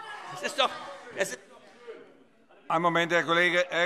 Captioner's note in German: Weitere Zurufe